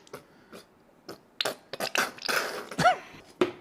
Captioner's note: squirty oil; loud squirting noises